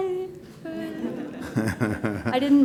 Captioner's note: laughter